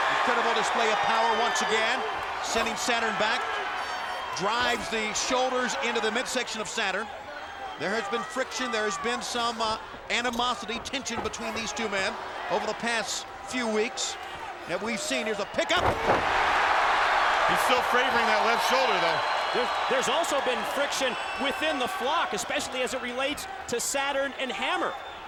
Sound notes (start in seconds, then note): 16.8 crowd cheering